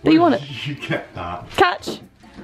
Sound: laughs

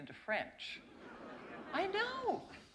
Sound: laughter

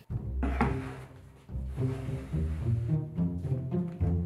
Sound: board sliding

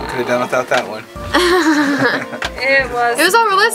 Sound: laughs

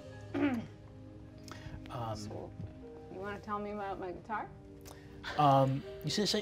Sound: clears throat

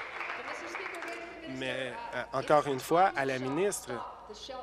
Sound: applause

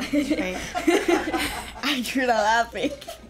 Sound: everyone laughs

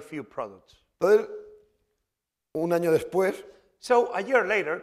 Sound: speaking spanish

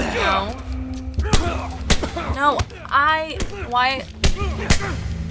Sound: scuffling; Joel groans; gunshot; Joel grunts

